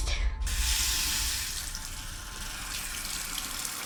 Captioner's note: sound of water flowing from faucet